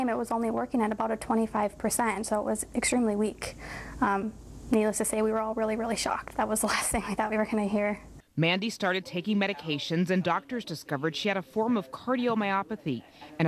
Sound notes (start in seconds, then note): 8.5 voiceover